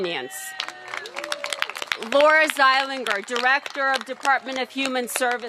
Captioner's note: cheers and applause